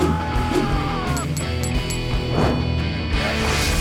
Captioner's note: screaming; coins clinking